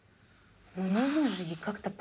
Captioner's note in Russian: вздыхает